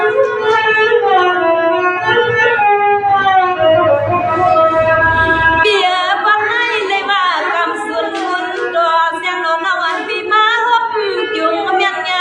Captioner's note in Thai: ปรบมือ